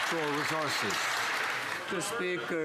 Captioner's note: some Applause